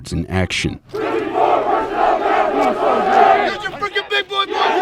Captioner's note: trainees yelling